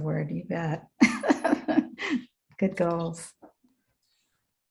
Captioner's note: laughs